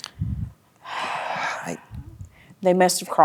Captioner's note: sighs